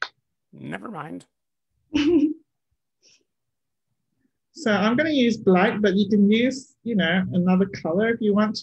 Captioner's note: chuckles